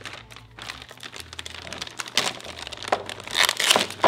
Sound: paper unwrapping

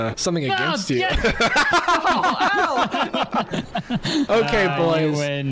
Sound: laughs

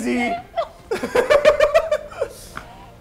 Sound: laughs

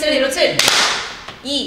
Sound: clap

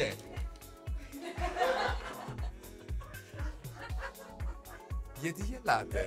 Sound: laughs

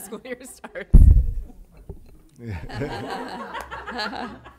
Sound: laughter

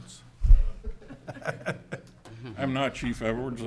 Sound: laughing

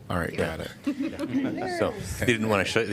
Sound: laughter

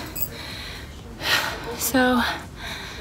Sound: heavy breathing

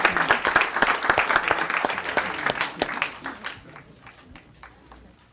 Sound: applause

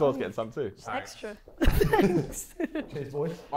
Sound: chuckles

